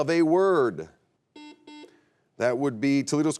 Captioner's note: buzzer beeps